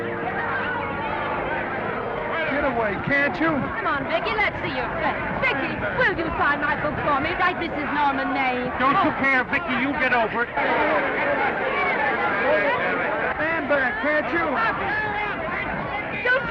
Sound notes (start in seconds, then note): 10.6 reporters chattering; 14.4 reporters chattering